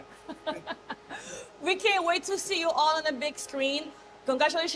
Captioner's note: laughing